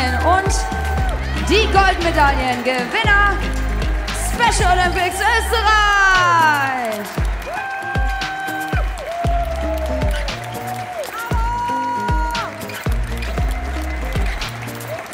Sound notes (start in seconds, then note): 7.4 audience "oooooos"; 11.1 someone in the stands shouts "Bravo!"; 14.9 applause; 14.9 ♫ Midtempo guitar music ♫